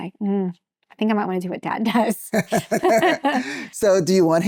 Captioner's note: laughing